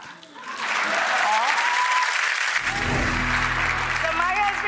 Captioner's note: audience applauds